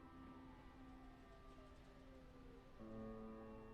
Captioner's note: distant siren wails